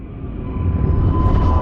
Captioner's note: engine roaring